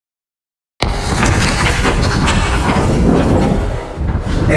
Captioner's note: whooshing